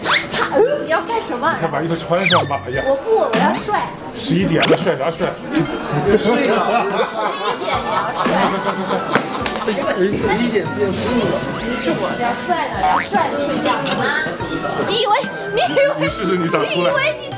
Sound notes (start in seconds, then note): 8.4 laughter all around